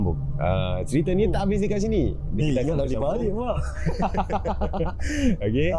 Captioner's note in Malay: ketawa